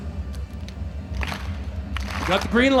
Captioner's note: audience clapping